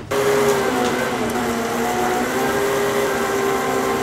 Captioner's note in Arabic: أزيز الفيلم